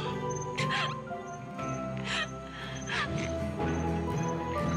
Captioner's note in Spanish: sollozos